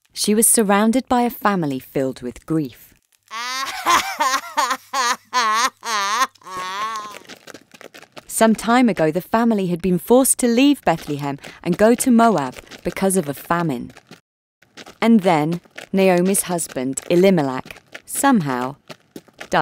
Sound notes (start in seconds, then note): 3.3 Naomi sobbing